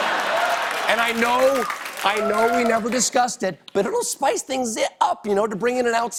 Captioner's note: cheers and applause